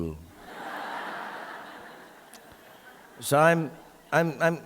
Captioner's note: audience laughing